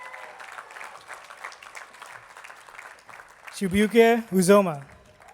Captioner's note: attendees clapping